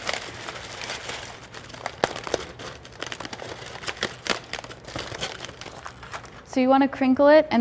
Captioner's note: crumpling noise